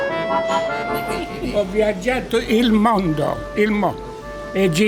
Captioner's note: Italian